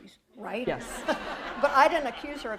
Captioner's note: laughter